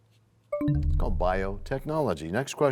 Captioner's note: bell chimes, time expires